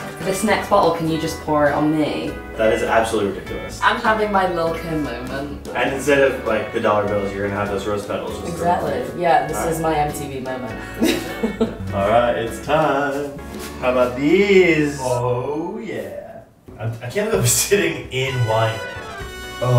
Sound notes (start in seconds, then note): 10.8 laughs